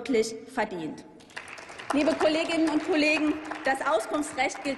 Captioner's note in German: Applaus